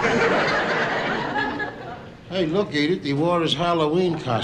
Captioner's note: audience Laughing